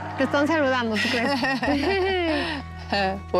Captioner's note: laughter